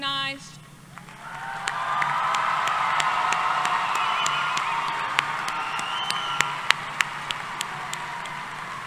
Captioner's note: applause